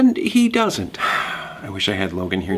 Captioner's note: exhales loudly